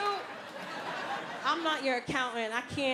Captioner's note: audience laughing